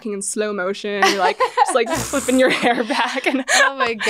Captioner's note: laughs